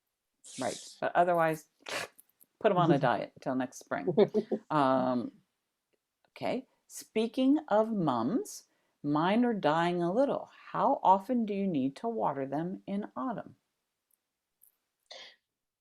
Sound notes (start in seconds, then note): 1.7 makes cut-off sound effect